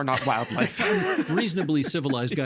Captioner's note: both laughing